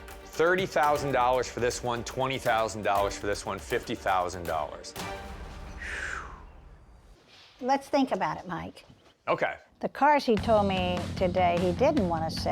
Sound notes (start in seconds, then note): 5.7 exhales slowly